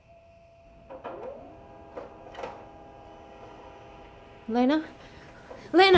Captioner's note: printer whirring